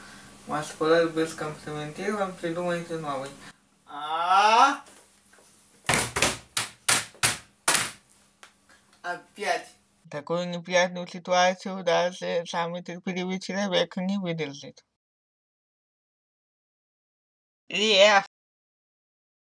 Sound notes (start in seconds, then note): 4.0 lowering the voice tone; 5.7 sounds of beats